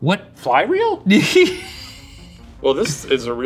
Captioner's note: laughing